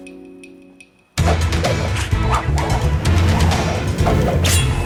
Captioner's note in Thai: เสียงพัดไม้